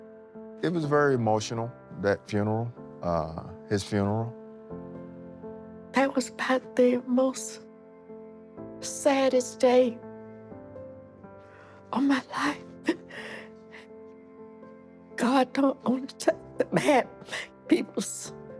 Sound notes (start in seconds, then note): 12.0 sobs